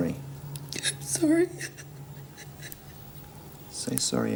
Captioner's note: whimpering